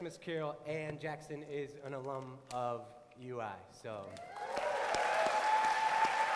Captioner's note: applause, cheering